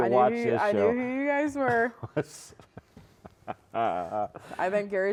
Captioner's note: laughing